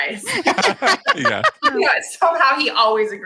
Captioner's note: group laughs